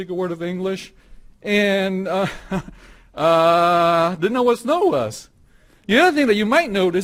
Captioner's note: laughs